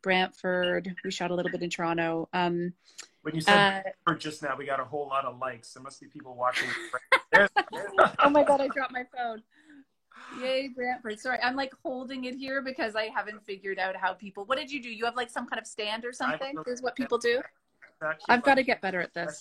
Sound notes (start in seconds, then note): 6.5 laughing